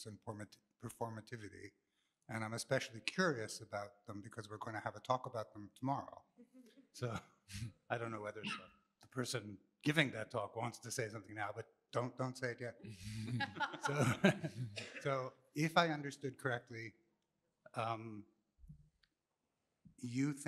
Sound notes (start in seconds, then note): 13.1 laughter